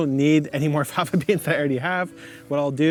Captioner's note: laughing